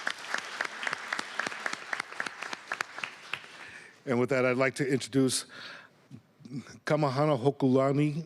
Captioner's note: applause